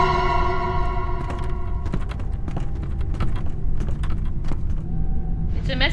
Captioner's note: wind howling; footsteps thudding